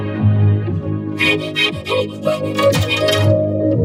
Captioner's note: panting frantically